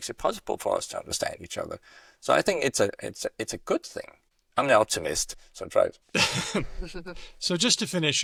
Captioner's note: laughter